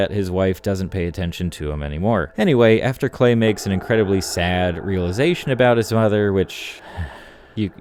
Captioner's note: sigh